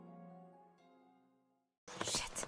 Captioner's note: whispering